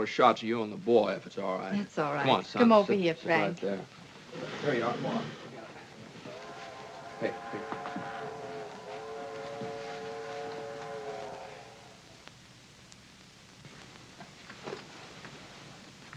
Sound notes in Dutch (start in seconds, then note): 6.2 treinfluit in de verte